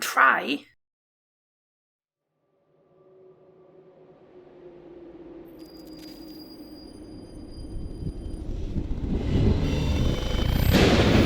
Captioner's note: spooky Noises